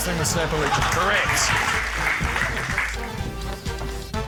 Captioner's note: applause